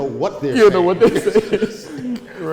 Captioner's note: laughing